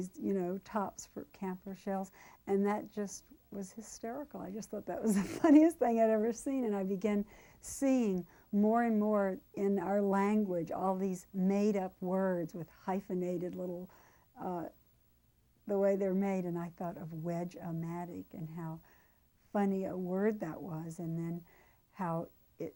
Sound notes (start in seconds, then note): 5.1 laugh